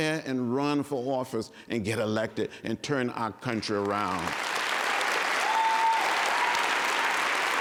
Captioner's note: applause and cheering